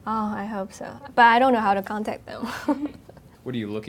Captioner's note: laughing